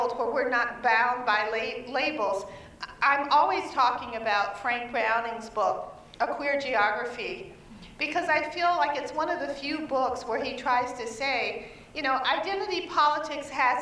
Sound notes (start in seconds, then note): none